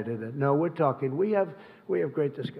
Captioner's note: off-mic